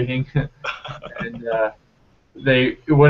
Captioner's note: laughing